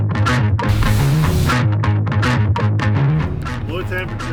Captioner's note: machine spraying